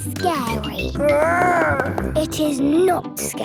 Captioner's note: growls